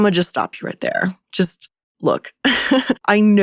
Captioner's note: laughs